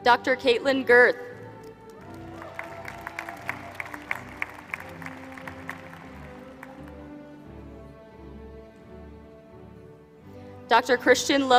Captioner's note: applause